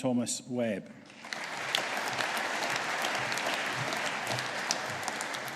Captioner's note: audience applauding